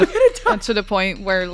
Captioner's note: laughs nervously